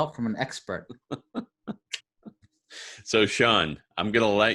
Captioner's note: laughing